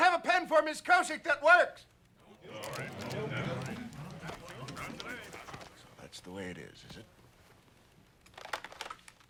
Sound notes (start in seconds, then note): 2.2 everyone murmuring